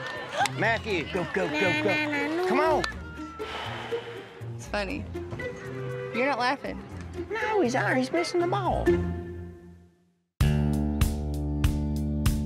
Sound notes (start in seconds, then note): 1.4 singing; 2.3 sighs